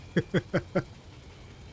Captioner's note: laughs